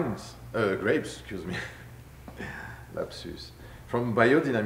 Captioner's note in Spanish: risas